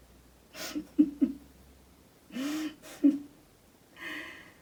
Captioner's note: laughing softly